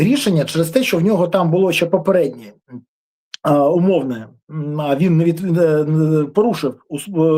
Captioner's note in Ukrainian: прочищення горла